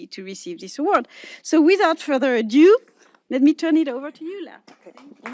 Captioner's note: applause